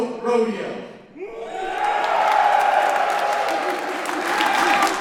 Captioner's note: enthusiastic cheers